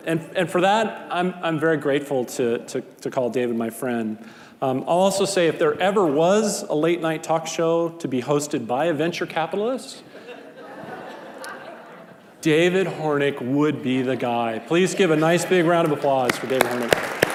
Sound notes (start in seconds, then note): 10.0 audience laughing